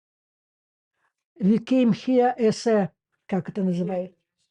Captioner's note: Russian